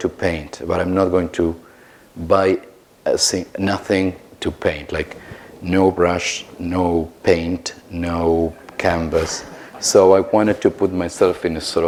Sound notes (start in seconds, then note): 8.5 laughter